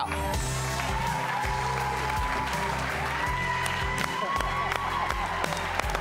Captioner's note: audience cheers and applauds